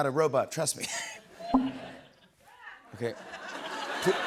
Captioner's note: beep; chuckles